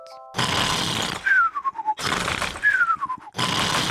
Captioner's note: sighs happily; george snores loudly